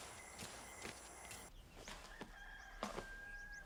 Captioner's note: rooster crows